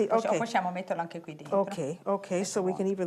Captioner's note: speaking Italian